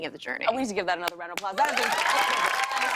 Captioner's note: cheers and applause